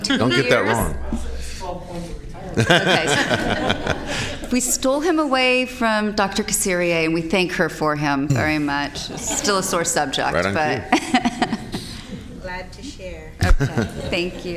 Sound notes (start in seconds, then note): 9.0 laughter